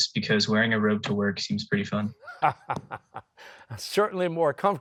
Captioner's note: laughing